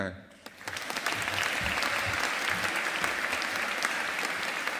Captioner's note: audience applauding